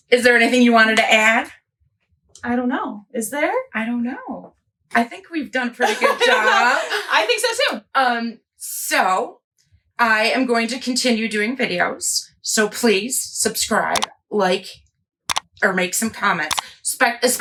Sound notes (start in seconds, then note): 5.9 laughs; 13.9 mouse clicks; 16.4 mouse clicks